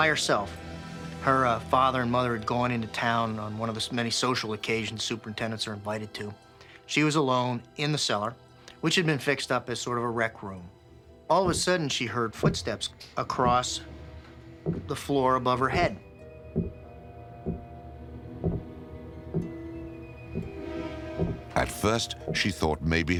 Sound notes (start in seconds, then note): 15.0 footsteps thudding